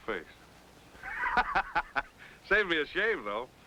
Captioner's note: Mitch laughing